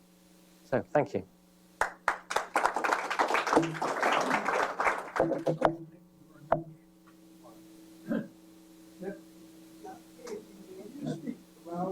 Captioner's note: applause